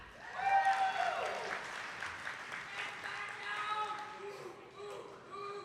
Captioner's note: attendees clapping